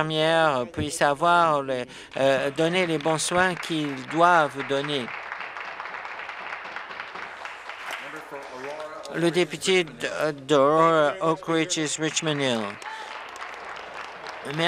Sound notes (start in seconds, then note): 5.7 applause